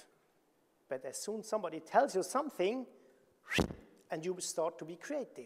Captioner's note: whooshing